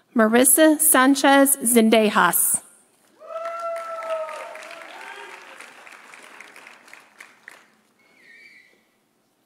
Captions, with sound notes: Marissa Sanchez-Zendejas. (audience cheering) (audience applauding)